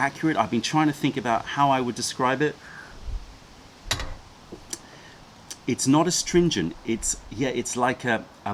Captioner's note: sips tea